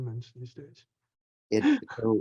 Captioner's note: laughs